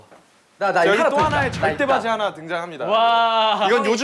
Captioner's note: ba-thump!